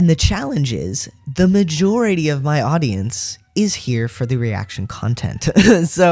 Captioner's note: laugh